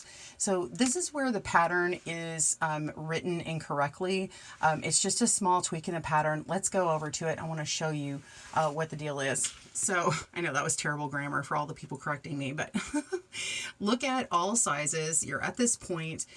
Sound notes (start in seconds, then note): 12.7 giggles